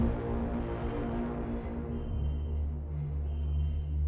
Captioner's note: alarm blaring; dramatic music